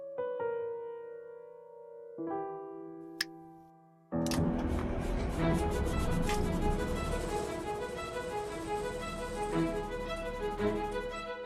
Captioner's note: engine starts. Jaunty music starts; footsteps